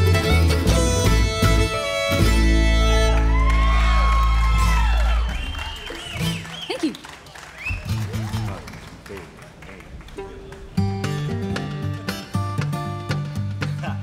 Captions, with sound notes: (audience cheering) - Thank you! - One, two, three, two. (upbeat bluegrass music)